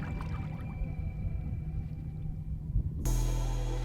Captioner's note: intense music; wind blowing; intense music